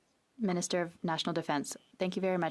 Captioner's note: speaking French